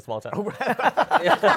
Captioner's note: laughter